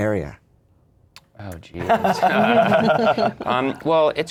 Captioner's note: laughter